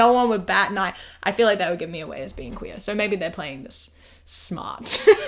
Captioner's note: laughs